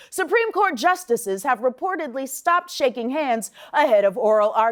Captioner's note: none